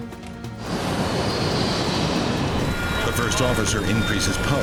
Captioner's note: jet whooshing